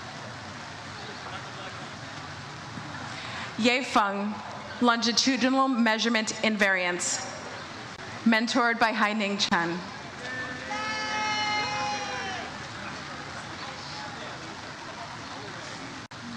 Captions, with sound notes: - Ye Feng "Longitudinal Measurement in Variance," mentored by Heining Cham. (audience cheers "Yay")